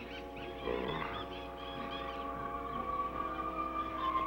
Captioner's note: groaning